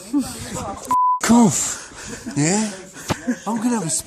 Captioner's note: beep